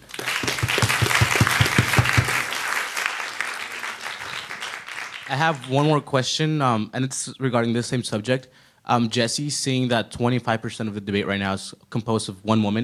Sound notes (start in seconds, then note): 0.0 audience applauding; 5.5 voiceover